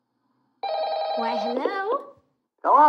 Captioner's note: telephone Ringing